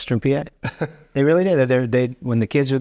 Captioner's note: chuckling